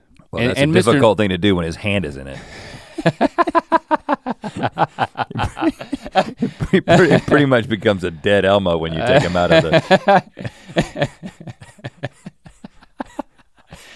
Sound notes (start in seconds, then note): 2.4 Link chuckles; 5.0 both chuckling; 9.0 Link chuckling